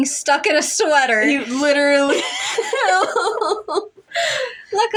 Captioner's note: laugh